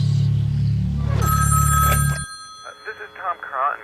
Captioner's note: tense music; phone ringing